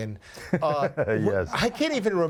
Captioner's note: Dr. Pol laughs